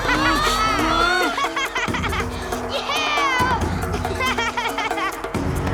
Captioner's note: laughing